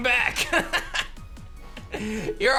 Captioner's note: laughs